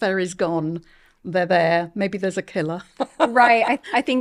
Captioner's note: laughing